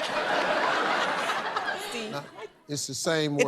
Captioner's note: laughter